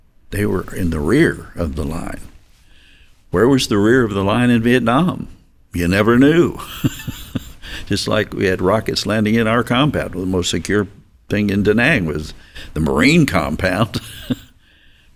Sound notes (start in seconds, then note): 6.2 chuckles ruefully